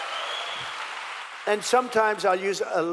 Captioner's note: cheering